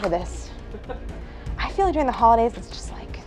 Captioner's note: person behind camera laughs